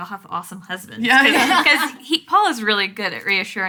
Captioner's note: laughing